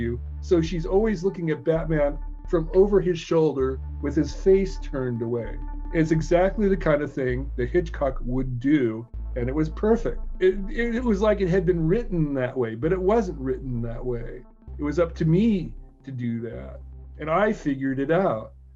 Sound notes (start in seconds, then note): none